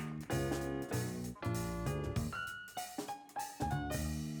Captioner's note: applause